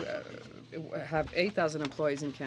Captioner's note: speaking French